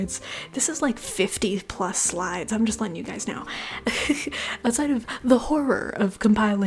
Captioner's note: laughter